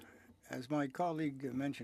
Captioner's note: speaking French